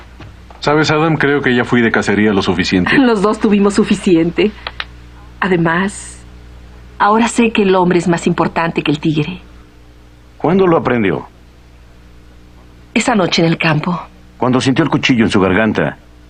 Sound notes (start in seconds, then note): 2.9 gentle laugh